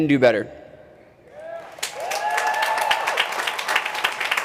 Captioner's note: crowd cheering